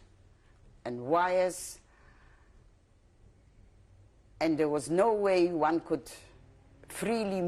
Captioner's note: pauses for 3 seconds